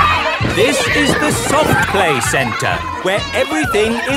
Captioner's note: loudly over shouting